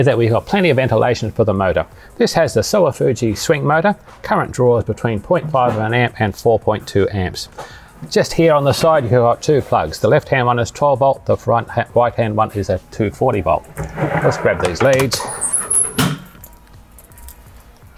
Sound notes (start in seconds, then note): 13.6 cords sliding